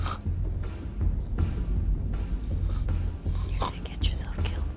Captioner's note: snores